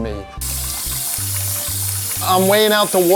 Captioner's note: water trickling